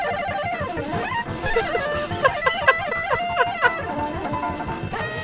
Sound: laughs

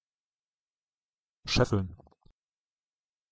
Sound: fast Pronunciation

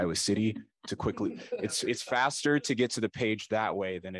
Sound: laughter

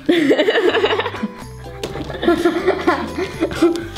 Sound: laughing

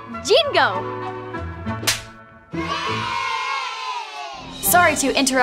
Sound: loud cheering

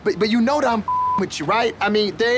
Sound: beep

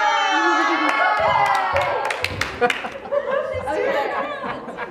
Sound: students applauding

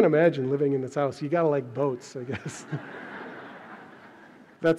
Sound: audience laughs

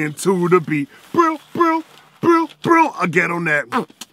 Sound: beatboxing continues

